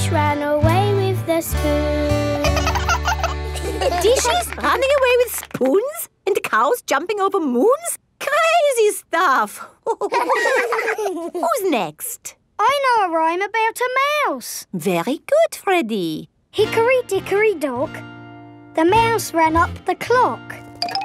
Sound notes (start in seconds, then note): 2.4 both laugh; 9.8 all laughing